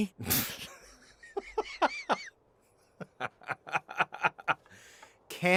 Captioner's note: laughter